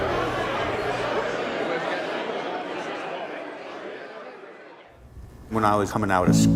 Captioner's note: crowd noise fades out